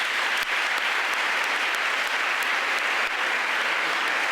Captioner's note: audience applauding